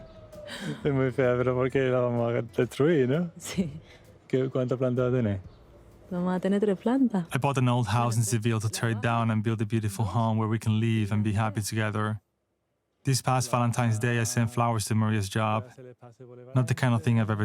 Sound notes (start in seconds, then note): 0.7 speaking Spanish